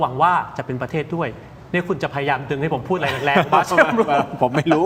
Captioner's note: laughter